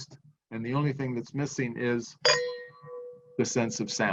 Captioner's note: clinks glasses